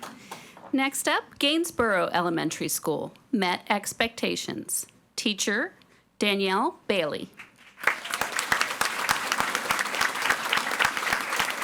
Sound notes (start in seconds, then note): 7.8 audience applauding